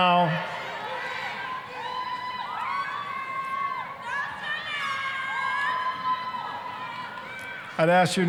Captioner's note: cheering